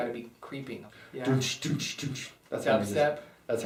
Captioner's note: makes house beat with his mout h